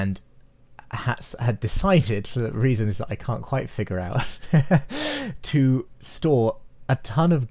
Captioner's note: laughs